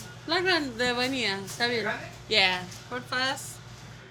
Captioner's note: foreign language